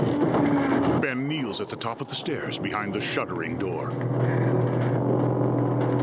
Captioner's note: furniture rattling; Ben breathing heavily